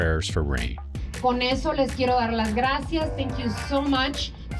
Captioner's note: speaks foreign language